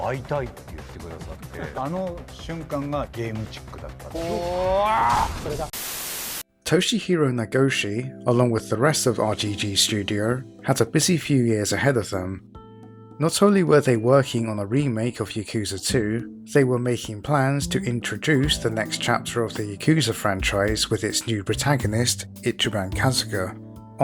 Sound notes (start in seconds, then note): 5.4 TV Static